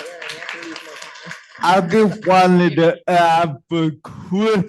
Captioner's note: applause